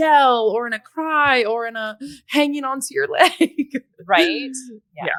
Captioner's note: laughs